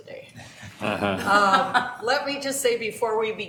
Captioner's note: laughing